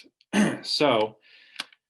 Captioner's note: clearing throat